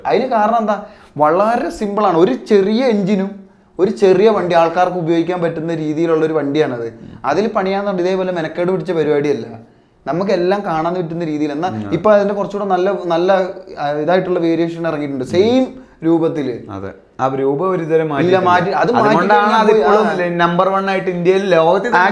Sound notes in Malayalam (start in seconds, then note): 6.9 തൊണ്ട ശരിയാക്കുന്നു